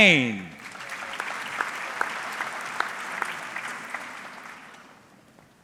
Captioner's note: audience clapping